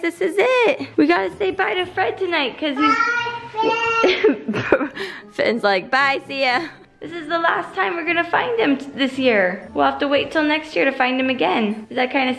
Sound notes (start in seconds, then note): 4.0 laughs